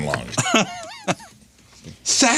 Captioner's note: laughing